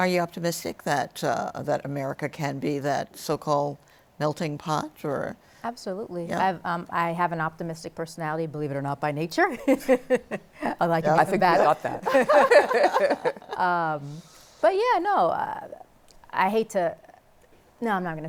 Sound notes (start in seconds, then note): 11.8 laughter